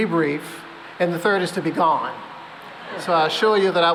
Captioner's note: laughter